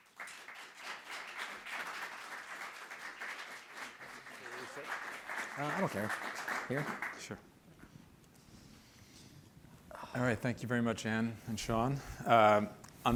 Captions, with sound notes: (applause) - I don't care, here? - Sure. Alright, thank you very much, Anne and Shaun.